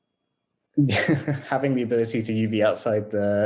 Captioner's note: laughs